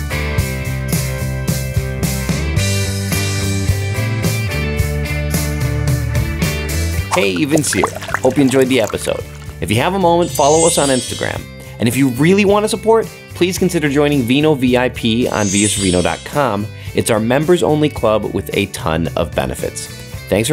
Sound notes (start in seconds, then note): 2.9 upbeat music continues; 7.0 wine pouring